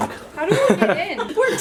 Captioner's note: laughing